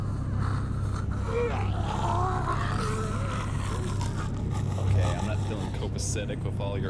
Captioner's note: snarling